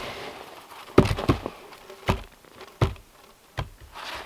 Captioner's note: log thumping